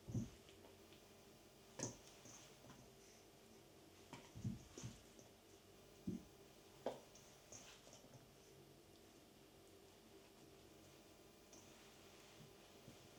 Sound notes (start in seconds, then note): 4.6 kneading